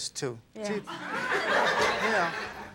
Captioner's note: audience laughs